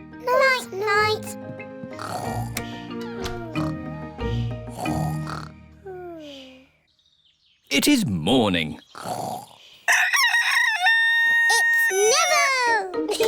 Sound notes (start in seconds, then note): 2.2 both snoring; 9.9 neville crows